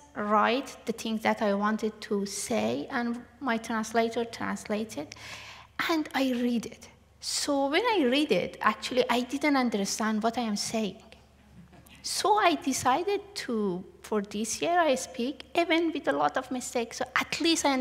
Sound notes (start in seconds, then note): 11.5 laughter